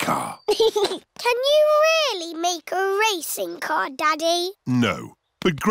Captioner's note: chuckles